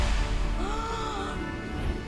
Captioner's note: gasps